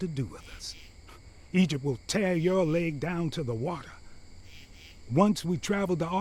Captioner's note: scoffs